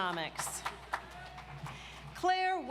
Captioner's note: audience applauds